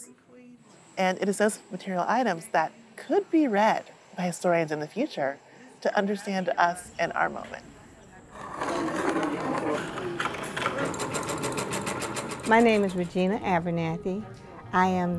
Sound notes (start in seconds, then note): 7.5 cutter ripping; 8.4 sewing machine whirring